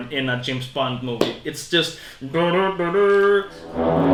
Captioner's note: big horn imitation